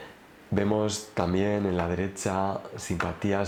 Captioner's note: Spanish